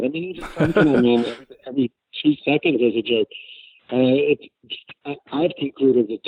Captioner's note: laughs